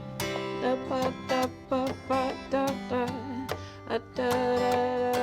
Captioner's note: vocalizing